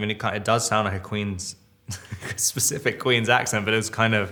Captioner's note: Robert chuckles